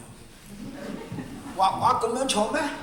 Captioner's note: laughter